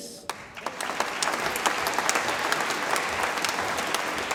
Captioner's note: audience applauds